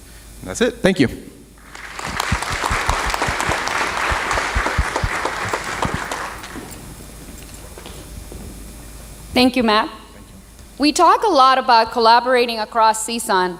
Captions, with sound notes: That's it. Thank you. [ Applause ] >> Thank you, Matt. We talk a lot about collaborating across CSUN,